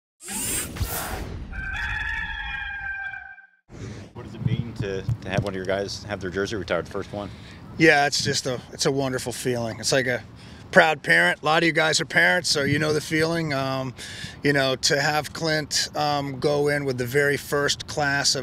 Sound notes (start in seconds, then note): 1.5 rooster crowing